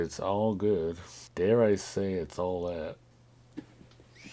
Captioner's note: chuckles